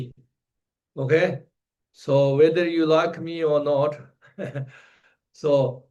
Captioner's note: laughs